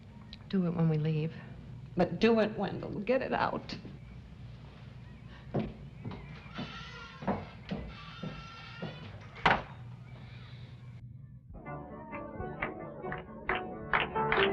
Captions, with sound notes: Do it when we leave. But do it, Wendell. Get it out. [door slams] [music and clapping]